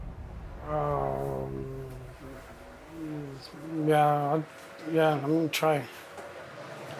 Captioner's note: groans